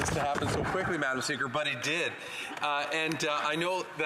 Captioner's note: laughter